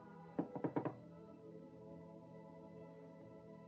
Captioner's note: knocking